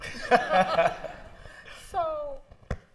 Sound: laughter

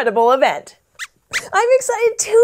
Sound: squeaks squeaks

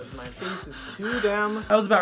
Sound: sighs

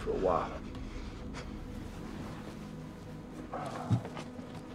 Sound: taking deep breaths

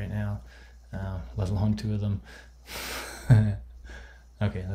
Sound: laughs

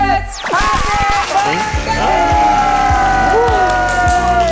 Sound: still crying

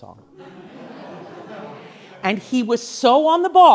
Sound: class laughs

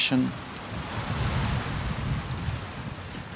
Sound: wind and waves crashing

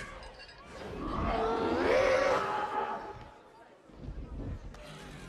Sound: dragon roars

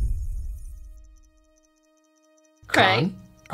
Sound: whoosh; ticking

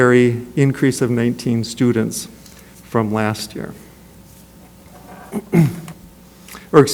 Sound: clears throat

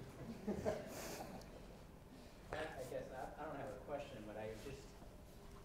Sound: laugh

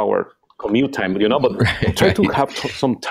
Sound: laughs

